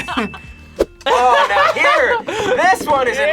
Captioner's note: laughs